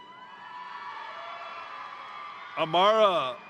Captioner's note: crowd cheering; crowd applauding